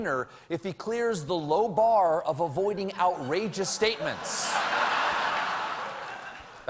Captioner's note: laughter